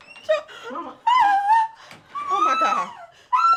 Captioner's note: lady weeping